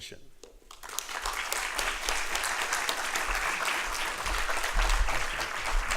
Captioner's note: applause